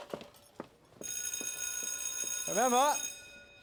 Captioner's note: bell ringing